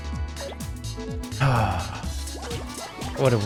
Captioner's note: sighs